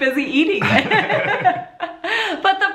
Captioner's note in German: lacht